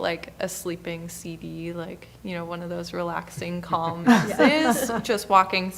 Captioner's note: laughing